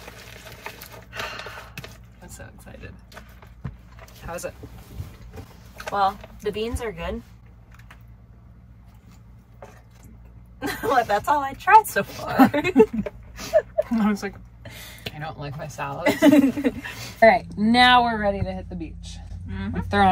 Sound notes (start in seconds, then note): 12.6 laughing